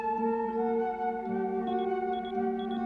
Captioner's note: beeping